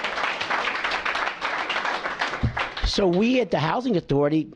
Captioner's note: applause